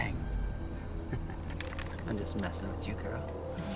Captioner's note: laughs